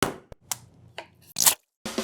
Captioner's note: knife chopping; eggs cracking; can popping